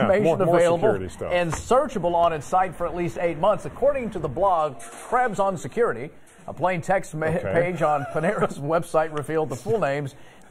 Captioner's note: laughter